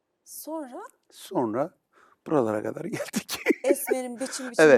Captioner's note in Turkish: kahkaha